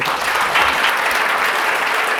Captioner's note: audience applause